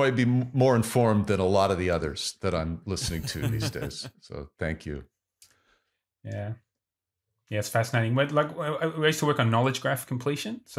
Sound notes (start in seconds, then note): 3.0 laughs